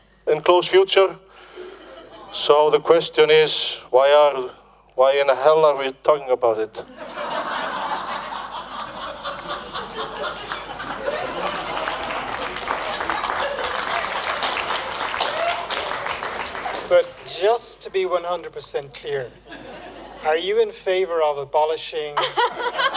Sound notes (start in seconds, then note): 6.8 laughter; 7.0 applause